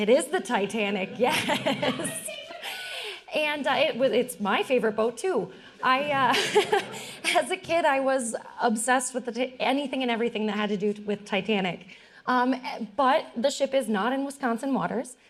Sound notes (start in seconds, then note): 1.0 audience laughing; 6.1 all laughing